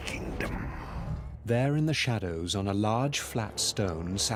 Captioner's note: narrator reading on-screen text